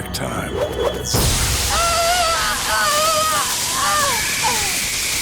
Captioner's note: screaming